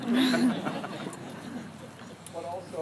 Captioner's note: laughter